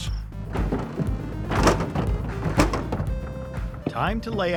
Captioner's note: wheels rattles